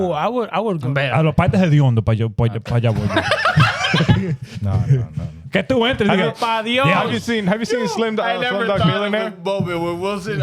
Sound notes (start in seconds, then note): 1.3 laughing; 1.3 speaking In Foreign Language